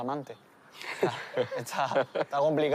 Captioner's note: laughs